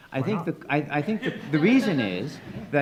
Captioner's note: attendees laughing